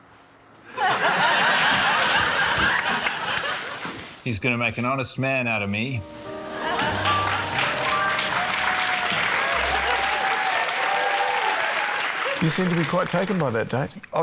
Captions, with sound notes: (LAUGHTER) He's gonna make an honest man out of me. (CHEERING, APPLAUSE) - You seemed to be quite taken by that date.